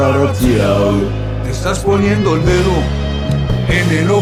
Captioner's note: non-english speech